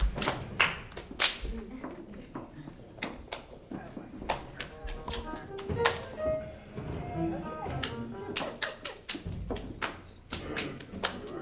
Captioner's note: applause